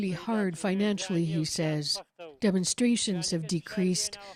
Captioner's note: speaking alternate language